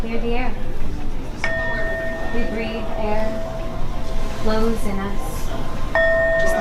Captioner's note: singing bowl